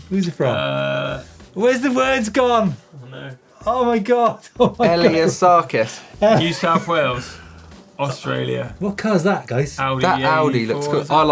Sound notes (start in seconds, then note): 4.6 laughter